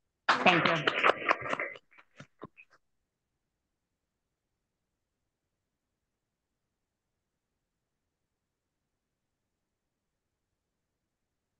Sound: applause

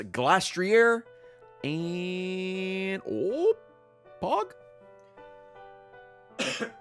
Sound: coughs

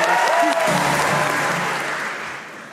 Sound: audience applauds

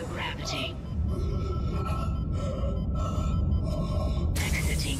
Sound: stifled gasping

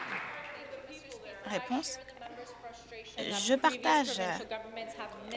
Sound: applause

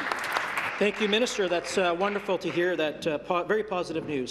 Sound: applause

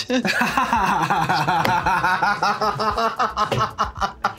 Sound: laughs; everyone laughs

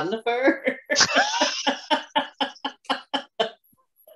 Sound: both laugh

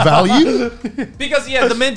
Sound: laughs

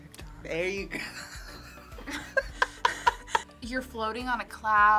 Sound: both laugh

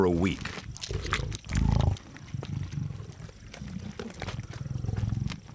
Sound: lions growling

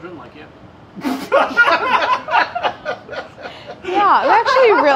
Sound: laughing

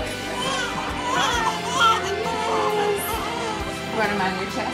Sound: baby crying

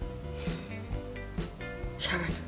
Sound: sighs

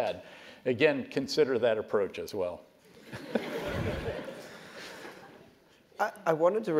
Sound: laugh

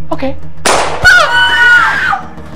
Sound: gunshot

